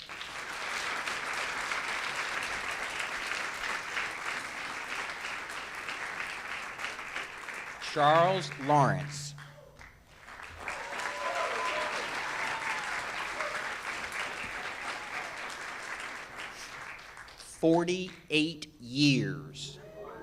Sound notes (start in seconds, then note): 0.2 audience claps; 10.4 audience claps and cheers